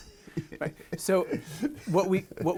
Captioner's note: laughs